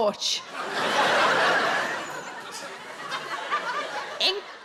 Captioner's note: audience laughing